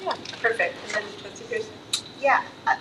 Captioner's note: none